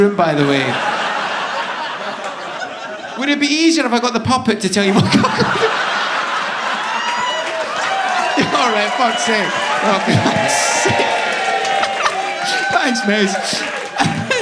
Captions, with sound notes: by the way. (audience laughing) Would it be easier if I got the puppet to tell you what cuckolding? (audience laughing) All right, fuck's sake. (audience cheering) Thanks mate.